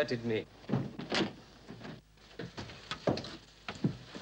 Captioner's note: door opens